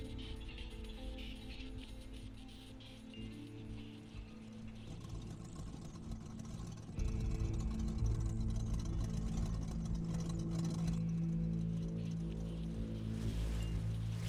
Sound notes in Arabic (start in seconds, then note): 0.2 تشغيل الموسيقى على وسادات الأذن; 4.6 طقطقة المحرك